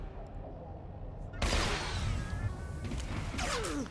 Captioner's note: gun firing